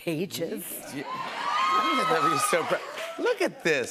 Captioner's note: cheers and applause